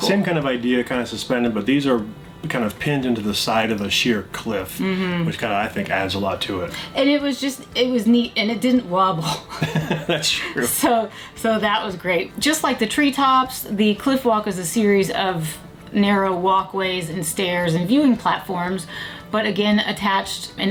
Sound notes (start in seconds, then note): 9.3 both laugh